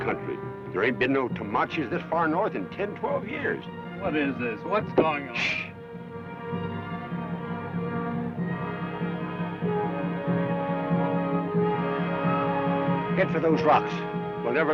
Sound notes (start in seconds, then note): 7.8 distant war cry